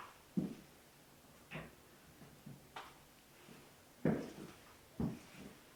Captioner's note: none